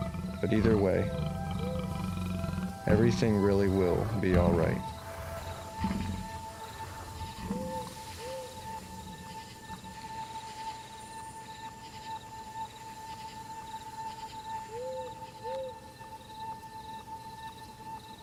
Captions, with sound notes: But either way, everything really will be all right. (light music) (owl hooting)